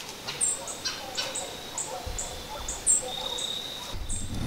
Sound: dog barking

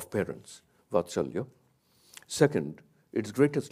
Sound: speaks in a foreign language

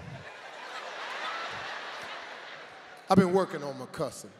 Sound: audience laughs

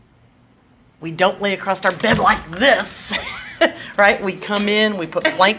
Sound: laughs

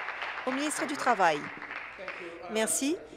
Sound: applause

